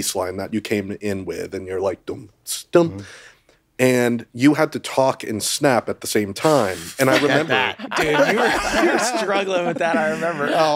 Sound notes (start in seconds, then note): 2.1 imitates drum beating; 7.0 all laughing